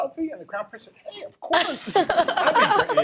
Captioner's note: laughter